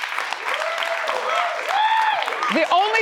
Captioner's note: audience applauds; audience cheers